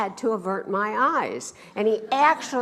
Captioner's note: laughs